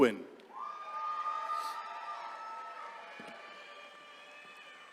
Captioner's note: attendees cheering